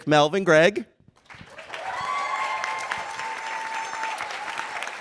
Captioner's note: cheers and applause